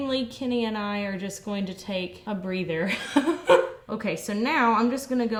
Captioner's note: laughs